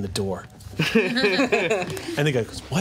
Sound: group laughs

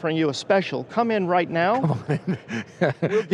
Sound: laughing

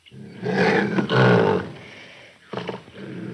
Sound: cougar roars

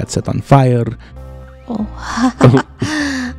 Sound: laughs

